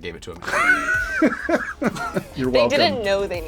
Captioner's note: laughs